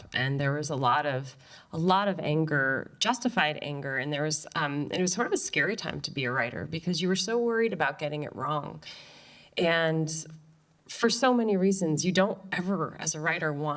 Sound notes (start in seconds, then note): none